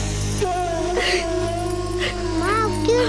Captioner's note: Crying